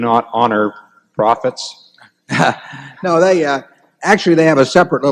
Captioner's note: laughs